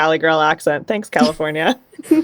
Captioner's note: laughter